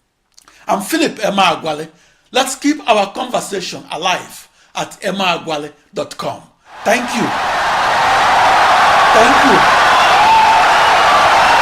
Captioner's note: wild applause and cheering for 17 seconds